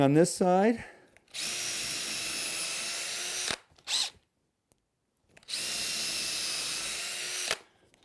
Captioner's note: drill